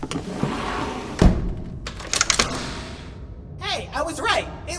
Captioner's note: doors close and lock